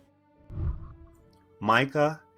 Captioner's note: whooshing